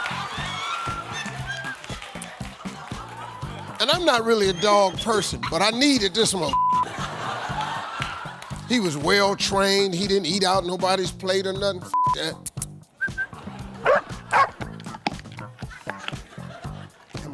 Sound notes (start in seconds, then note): 0.0 audience laughing; 12.4 Steve kissing and whistling; 14.2 dog barking